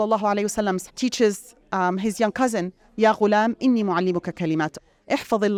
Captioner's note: speaks Arabic